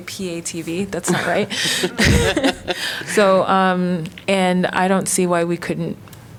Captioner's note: laughter